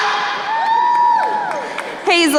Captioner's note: crowd cheering